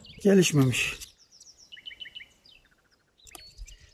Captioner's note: bird sounds